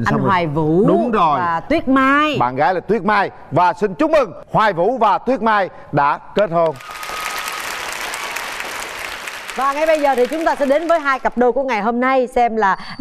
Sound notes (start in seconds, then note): 6.6 audience applause